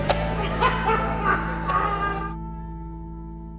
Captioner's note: laughter